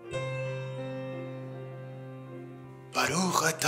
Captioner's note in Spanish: Orando en Hebreo